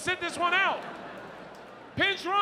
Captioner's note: audience laughs